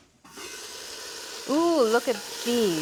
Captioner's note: sizzling